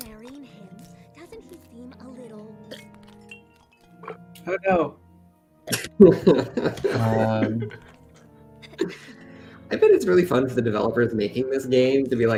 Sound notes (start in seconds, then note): 5.9 laughter